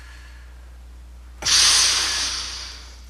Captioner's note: breathing; screaming